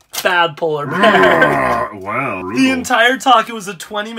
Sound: roars

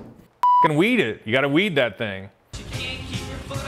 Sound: beep

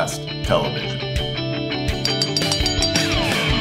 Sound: bell ringing

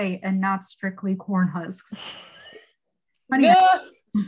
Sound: laughing

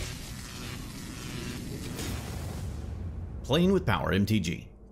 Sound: electricity buzzing

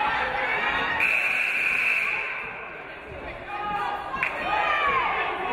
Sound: game buzzer buzzes

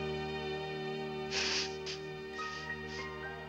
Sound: sniffles

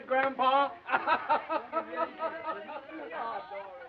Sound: laughing

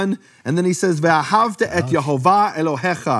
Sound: speaking in foreign language

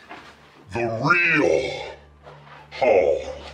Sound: deep echoing voice

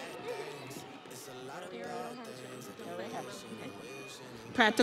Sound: crowd cheering

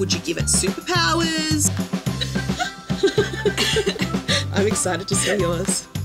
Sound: upbeat music continues; group giggling

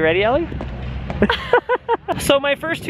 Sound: laughing

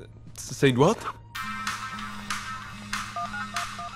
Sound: phone ringing

